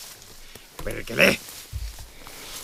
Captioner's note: cursing